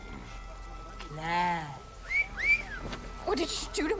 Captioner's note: wolf whistle